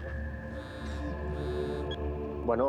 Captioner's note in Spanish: suena el celular